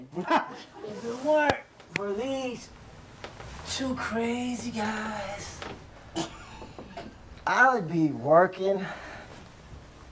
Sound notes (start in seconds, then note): 0.1 people are laughing; 6.2 woman is laughing